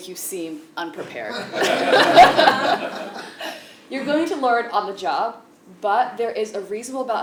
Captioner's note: laugh